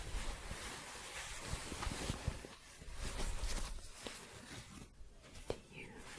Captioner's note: shuffling